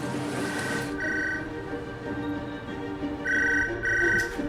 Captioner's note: phone ringing